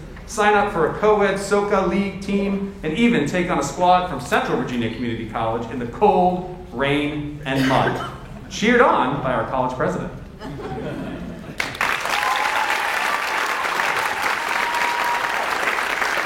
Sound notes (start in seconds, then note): 10.4 audience laughs; 11.6 audience cheers and applauds